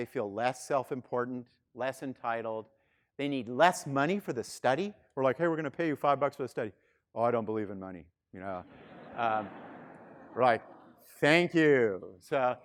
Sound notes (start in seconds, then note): 8.6 students laughing